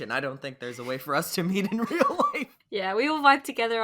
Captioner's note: laughs